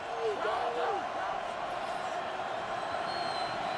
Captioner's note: crowd cheering